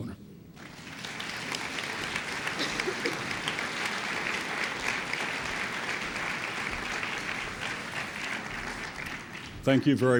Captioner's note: applause